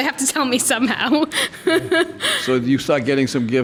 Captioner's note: laughs